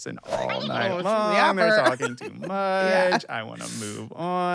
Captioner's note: laughs